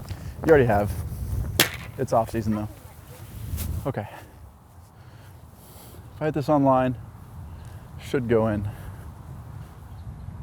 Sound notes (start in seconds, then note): none